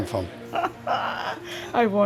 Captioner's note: laughs